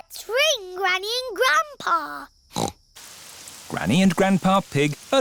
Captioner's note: snorts